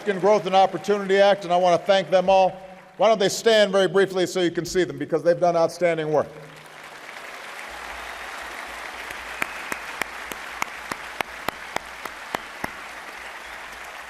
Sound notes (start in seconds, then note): 0.0 applause; 12.1 applause